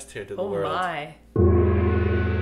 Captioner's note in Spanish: gong